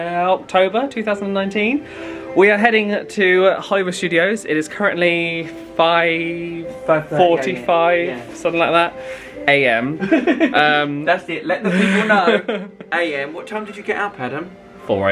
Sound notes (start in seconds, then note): 10.0 laughs